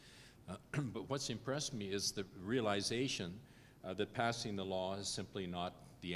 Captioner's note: cough